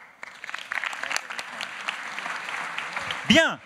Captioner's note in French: Applaudissements